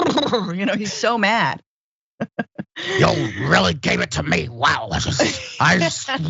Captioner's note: laugh